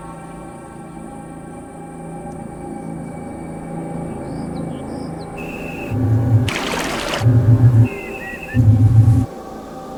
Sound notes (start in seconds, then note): 4.6 birds chirping